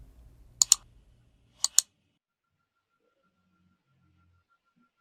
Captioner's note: buttons clicking